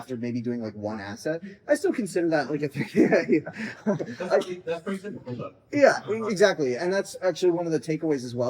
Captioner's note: laughter at Oscar raising his hand